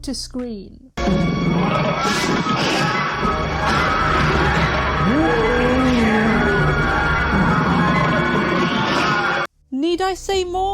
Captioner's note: epic fight sound effects